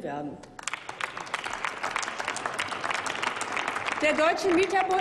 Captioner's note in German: Applaus